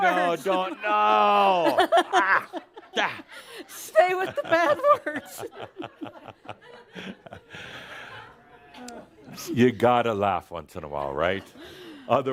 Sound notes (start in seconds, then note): 4.0 more laughter; 8.2 they laugh